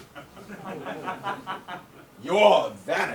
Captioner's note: audience laughs